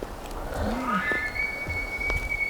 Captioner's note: caller bugling